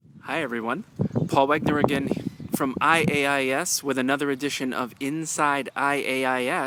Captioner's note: bird and nature noises throughout video